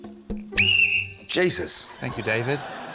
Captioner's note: blows whistle